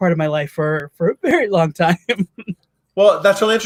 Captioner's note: laughs